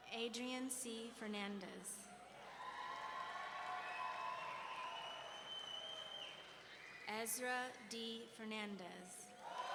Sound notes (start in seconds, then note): 2.5 audience cheering; 4.3 audience members wolf-whistling